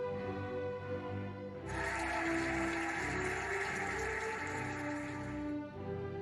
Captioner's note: cheering and applauding